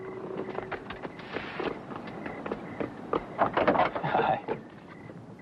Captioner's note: crickets chirping